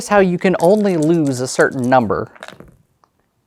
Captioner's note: dice rattling; dice rolling